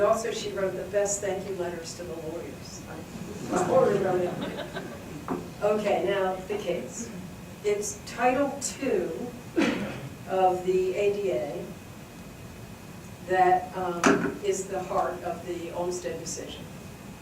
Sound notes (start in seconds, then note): 3.2 audience laughs